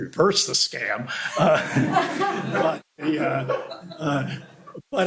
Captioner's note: laughter